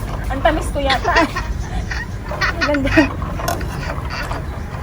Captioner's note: laughing